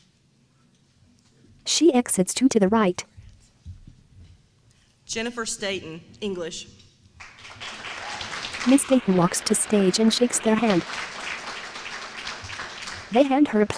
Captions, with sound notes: Jennifer Staton, English. [APPLAUSE]